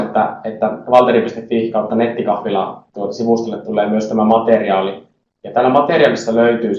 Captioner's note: in Finnish